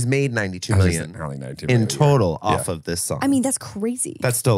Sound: laughs

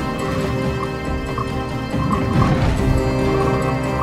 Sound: creature croaking

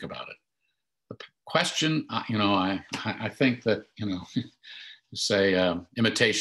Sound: chuckles

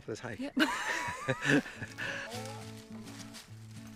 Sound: laughing; gentle music

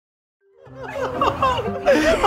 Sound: laughing

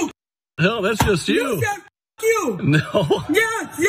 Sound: laugh

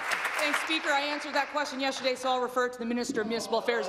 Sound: applause

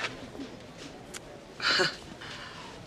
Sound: scoffs

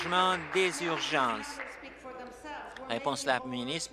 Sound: applause

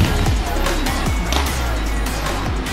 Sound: smack

